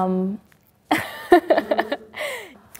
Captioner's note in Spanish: ríe